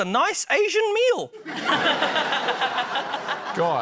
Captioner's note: laughter